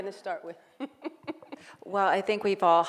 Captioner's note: laughing